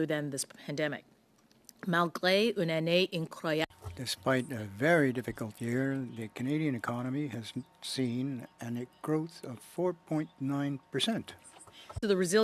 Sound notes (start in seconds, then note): 5.5 speaking French